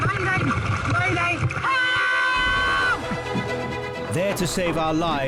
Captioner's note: yelling